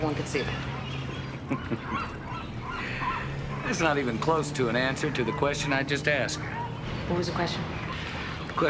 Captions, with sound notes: on the Internet where everyone could see them. - (chuckling) That's not even close to an answer to the question I just asked. - What was the question?